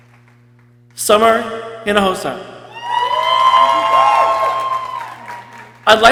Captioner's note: people cheering